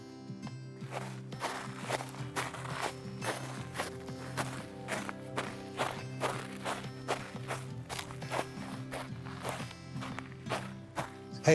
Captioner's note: footsteps in the wood